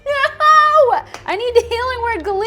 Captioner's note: laughs